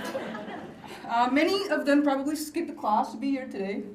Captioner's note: laughter